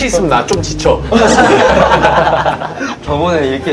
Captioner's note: laughing